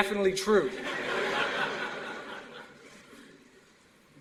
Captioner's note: laughter